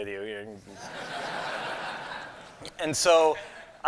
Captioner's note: laughter